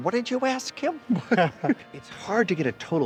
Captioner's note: both chuckling